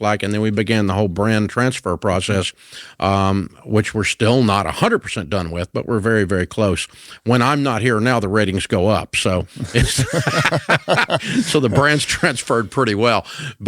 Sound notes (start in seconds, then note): 9.6 both laughs